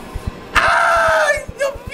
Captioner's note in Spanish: Grita